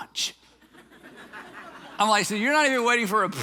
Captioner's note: audience chuckling